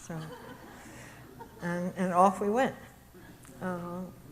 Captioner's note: audience chuckles